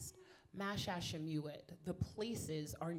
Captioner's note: speaking in foreign language